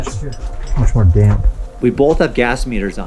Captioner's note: whispering